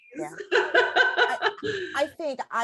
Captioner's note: chuckles